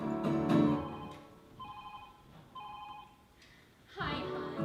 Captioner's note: phone ringing